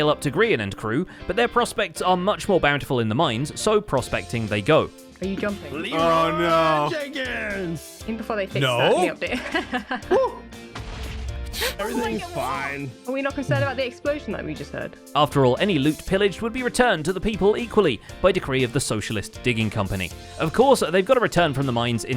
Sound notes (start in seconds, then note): 8.9 laughs; 10.7 explosion